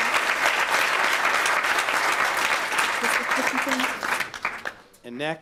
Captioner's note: applause